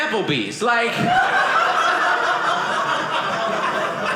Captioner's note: audience laughing